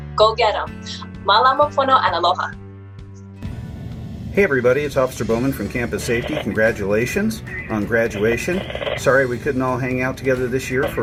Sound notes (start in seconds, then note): 1.2 hawaiian speech